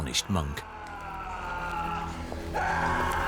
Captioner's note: peasant screaming